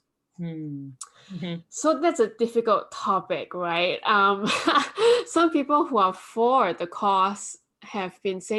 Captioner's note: awkward chuckle